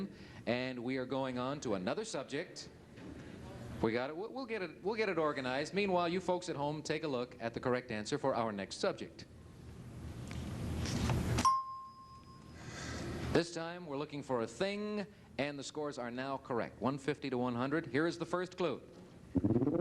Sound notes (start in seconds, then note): 11.4 bell dings